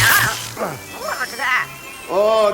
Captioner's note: grunts